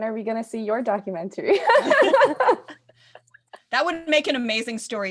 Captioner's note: laughs